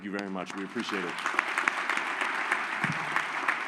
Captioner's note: applause